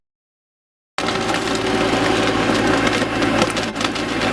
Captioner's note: engines rumbling